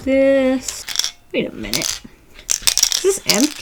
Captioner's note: beads rattling inside the marker